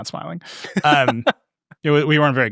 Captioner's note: laughing